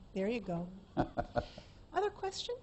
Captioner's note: laughter